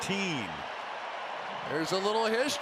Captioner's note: cheering